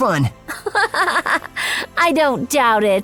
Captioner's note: Princess Cai laughs